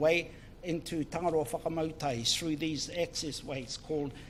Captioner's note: speaks in foreign language